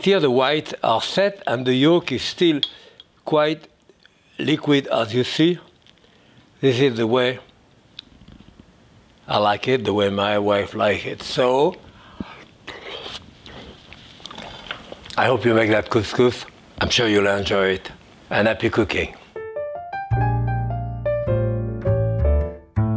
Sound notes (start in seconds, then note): 13.4 Jacques slurps; 19.4 upbeat piano music